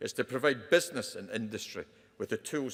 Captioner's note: none